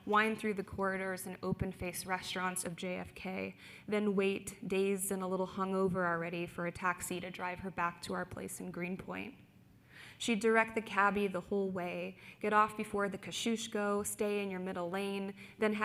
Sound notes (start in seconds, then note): none